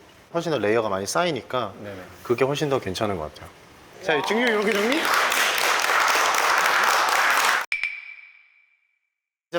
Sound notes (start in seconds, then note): 6.1 applaud